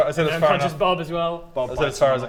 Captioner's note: none